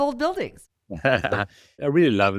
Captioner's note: laughing